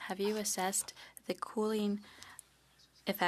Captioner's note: speaking French